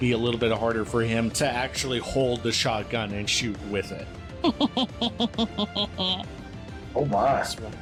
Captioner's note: Hazel laughs